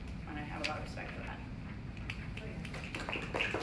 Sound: clapping

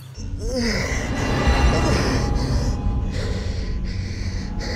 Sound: breathes heavily

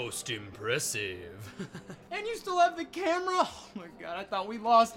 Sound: laugh

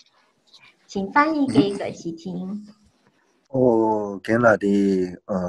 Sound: foreign language

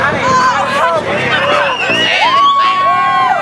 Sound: cheers

